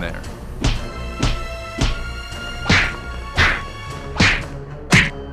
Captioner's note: punching